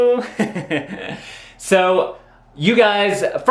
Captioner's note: laughing